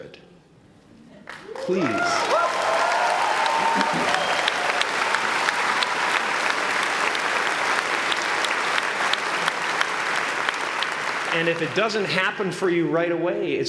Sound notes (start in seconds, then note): 1.2 applause